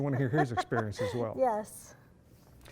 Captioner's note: laughs